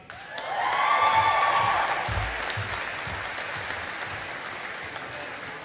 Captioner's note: audience applauding